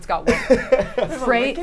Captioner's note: laughs